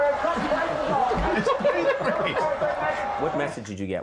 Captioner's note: laughing